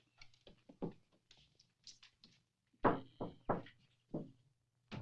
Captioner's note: Steve knocking